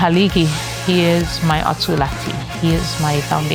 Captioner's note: in native chamoru